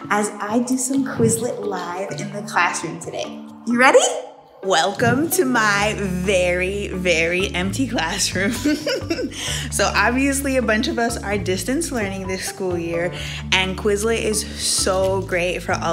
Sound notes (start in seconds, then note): 8.4 giggles